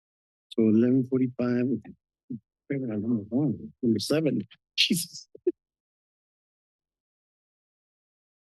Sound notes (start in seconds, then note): 2.7 background conversations